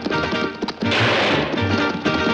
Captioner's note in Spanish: Disparos